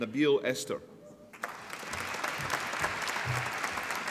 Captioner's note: applause